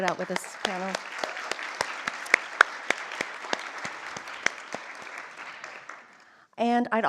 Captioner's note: applause